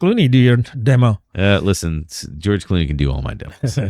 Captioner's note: uh